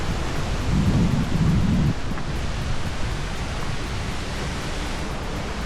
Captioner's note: wind noise from the wind generated by the waterfall